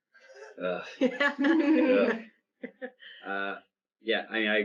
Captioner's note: panel laugh